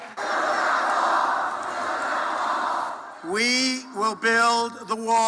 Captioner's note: crowd